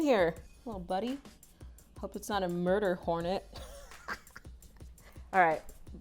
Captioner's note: laughs